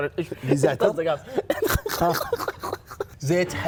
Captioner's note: laughing